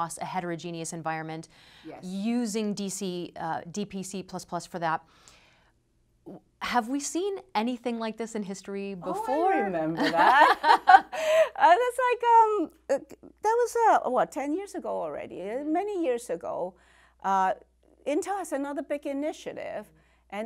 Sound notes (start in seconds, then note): 9.9 laughter